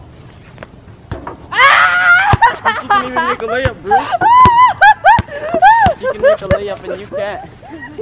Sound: screams

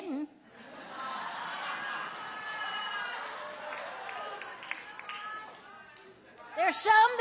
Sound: audience laughing and cheering

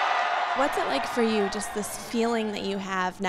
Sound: cheering

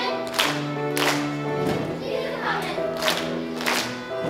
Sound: claps; claps

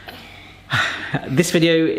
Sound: sighs

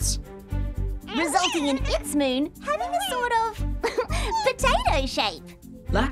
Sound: giggles

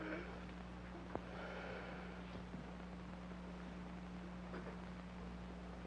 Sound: Roy breathing heavily and strained

